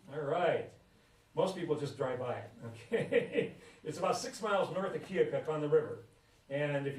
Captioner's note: laughs